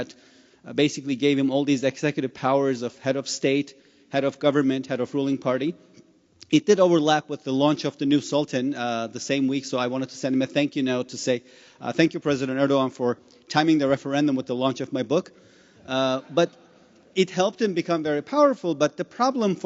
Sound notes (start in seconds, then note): 15.3 laughter